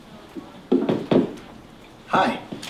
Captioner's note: knuckles tapping